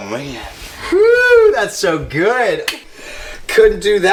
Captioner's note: hands clap